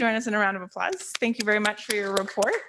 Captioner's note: applause